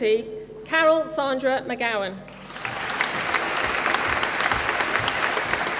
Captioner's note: applause